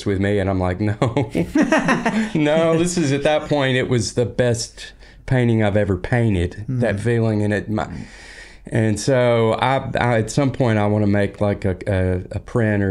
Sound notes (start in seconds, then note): 1.0 laughing